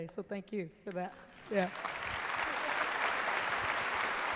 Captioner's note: applause